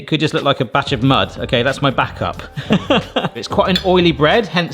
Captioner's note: laughs